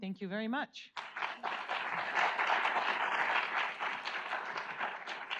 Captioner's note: audience applauds